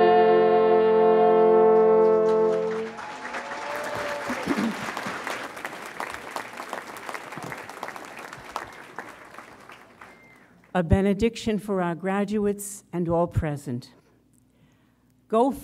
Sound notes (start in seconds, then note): 1.7 audience applauds